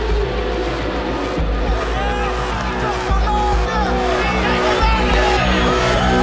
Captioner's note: crowd shouting